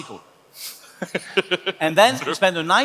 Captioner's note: laughs